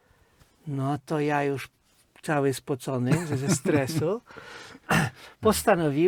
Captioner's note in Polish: śmiech